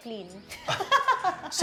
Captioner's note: laughs